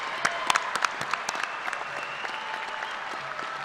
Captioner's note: applause